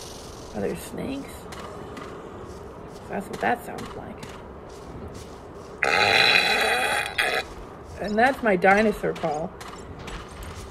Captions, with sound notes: Are there snakes? Cause that's what that sounded like. [Belches] And that's my dinosaur call.